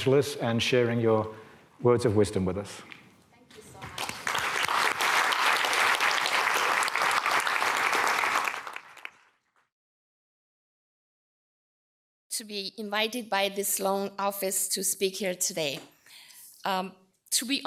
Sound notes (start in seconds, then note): 9.6 audience applause